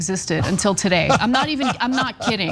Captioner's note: laugh